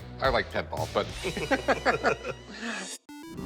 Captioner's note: both laugh